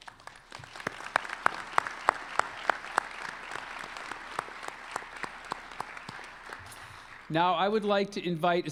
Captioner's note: applause